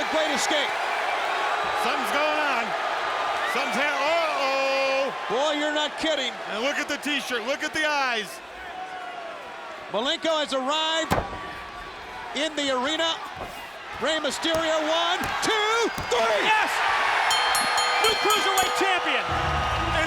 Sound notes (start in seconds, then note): 17.1 bell rings; 17.6 audience cheers